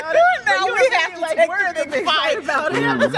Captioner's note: laughter; laughter